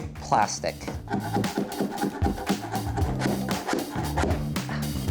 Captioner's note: scraper thuds